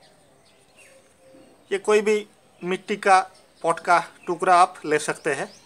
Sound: in Hindi

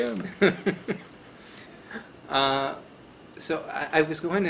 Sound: chuckling

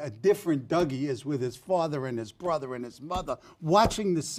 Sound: tapping

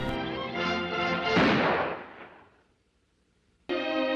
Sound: gunshot

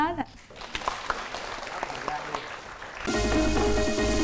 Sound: applause

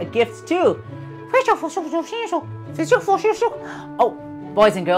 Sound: speaking elvish

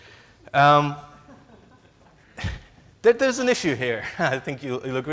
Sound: laughs

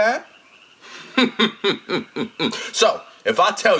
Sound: chuckles

